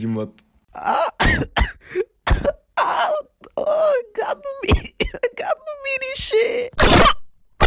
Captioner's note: coughs